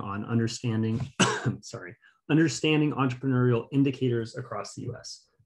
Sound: coughs

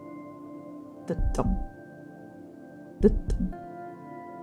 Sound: heart beating; heart beating

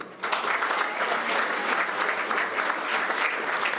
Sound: applause

